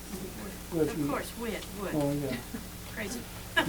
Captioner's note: laughs